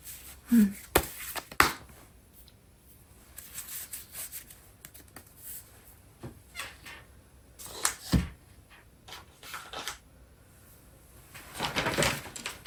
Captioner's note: drawing cards